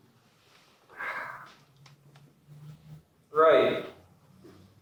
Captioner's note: sigh